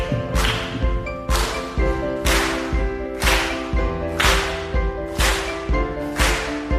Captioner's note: audience starts clapping